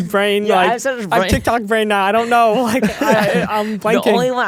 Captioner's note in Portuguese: risos; risos